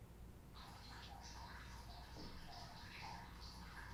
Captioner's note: water running